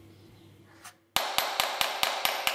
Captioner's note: hammering